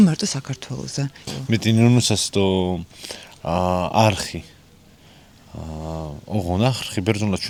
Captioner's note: man speaking in Greek